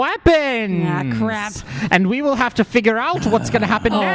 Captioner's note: transitioning into his announcer voice